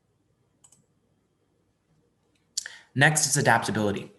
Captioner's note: mouse clicking